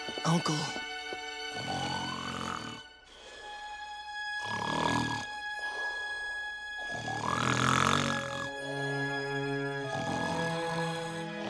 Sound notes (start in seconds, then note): 1.5 faint snore; 4.4 louder snore; 6.7 big snore; 10.1 fainter snore